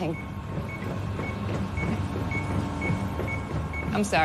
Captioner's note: beeping continues